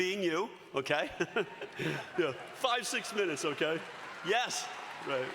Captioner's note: graduates cheering